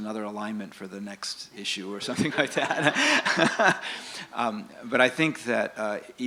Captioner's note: laughter